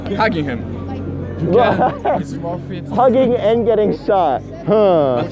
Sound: laughing

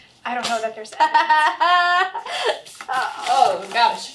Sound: Vicky laughs

